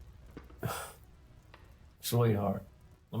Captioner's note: scoffs